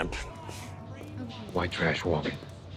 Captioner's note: heels clicking on pavement